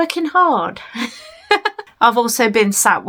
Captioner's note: laughs